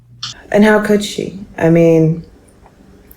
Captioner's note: sighs